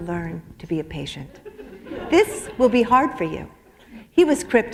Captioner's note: laughter